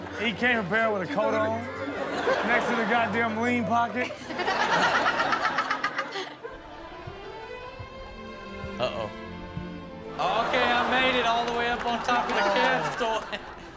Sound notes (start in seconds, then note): 1.3 audience laughs; 4.0 Chanel chuckles; 10.2 audience laughs